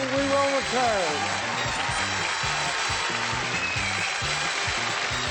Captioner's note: applause, theme music